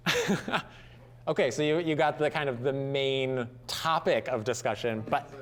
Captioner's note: laughing